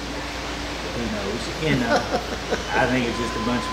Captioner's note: laughing